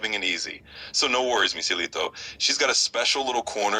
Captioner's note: spanish